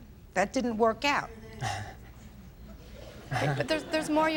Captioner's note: attendees chuckling